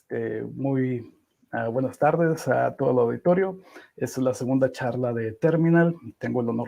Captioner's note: in Spanish